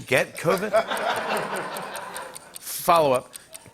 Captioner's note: laughter